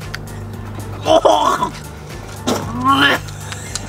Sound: gagging

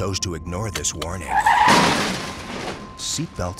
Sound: screeching brakes... crash!

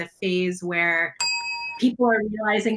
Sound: bell dings

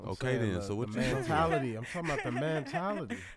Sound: laughs

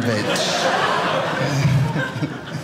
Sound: audience laughing

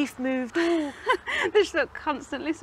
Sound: laughs

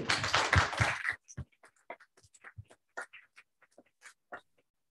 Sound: applause

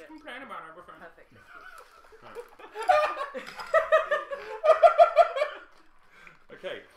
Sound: laughter

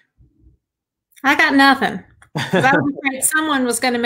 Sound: laughs

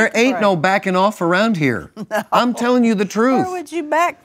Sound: laughs

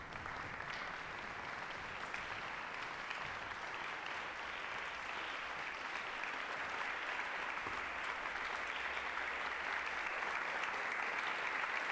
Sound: applause

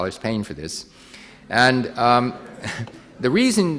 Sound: audience laughing

